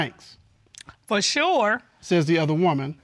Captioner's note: judge dana reading